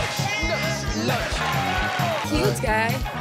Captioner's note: audience cheering